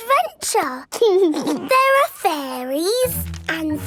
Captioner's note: snorts; giggles